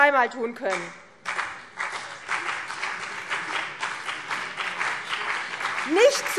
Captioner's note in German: Beifall CDU und BÜNDNIS 90/DIE GRÜNEN